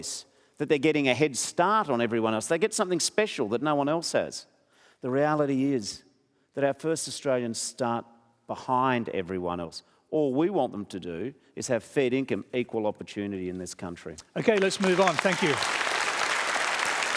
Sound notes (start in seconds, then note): 14.3 applause